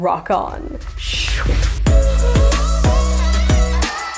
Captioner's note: whooshing